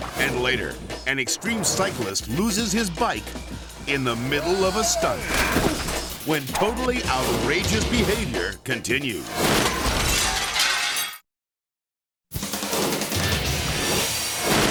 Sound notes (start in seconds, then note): 9.8 glass shattering; 12.4 energetic music; 14.5 glass shattering